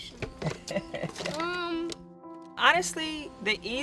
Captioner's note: laughing